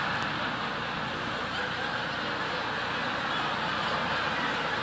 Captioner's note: audience laughing